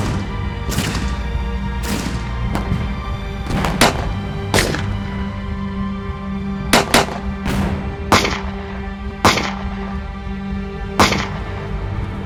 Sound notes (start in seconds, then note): 0.1 tense music continues; 6.6 gunshot cracking continues